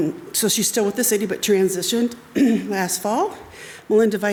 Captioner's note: clears throat